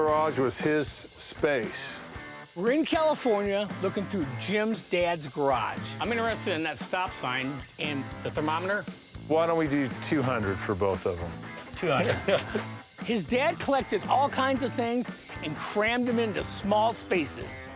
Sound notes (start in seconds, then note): 11.9 cash register chime